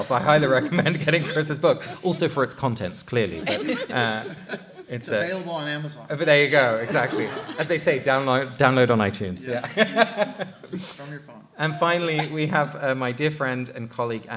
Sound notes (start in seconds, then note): 3.4 light laughter; 9.5 laughter